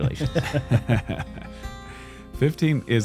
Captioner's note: laughter